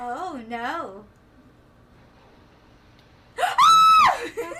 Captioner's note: Angel screams